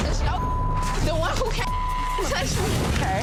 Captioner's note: beep